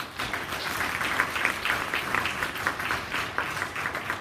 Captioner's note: audience applauds